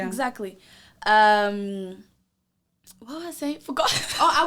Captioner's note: laughs